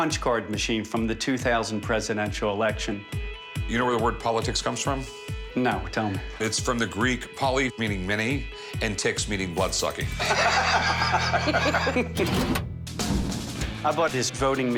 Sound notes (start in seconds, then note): 10.2 laughter; 11.8 chuckles